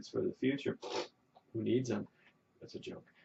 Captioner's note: blows raspberry